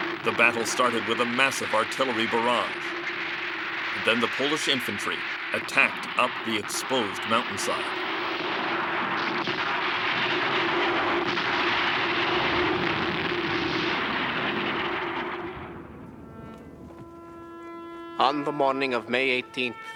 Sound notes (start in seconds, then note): 0.0 bomb explodes; 8.8 bombs exploding; 16.5 melancholic music